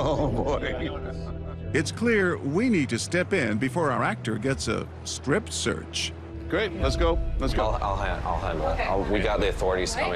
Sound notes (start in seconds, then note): 0.0 chuckling